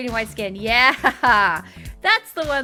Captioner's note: laughing